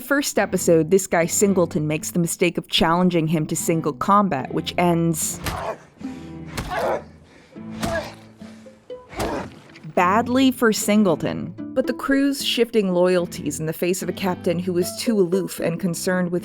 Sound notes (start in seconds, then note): 7.6 punching noises